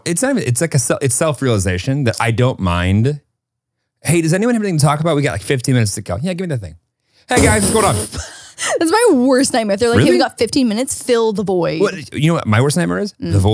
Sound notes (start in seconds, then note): 9.9 laughs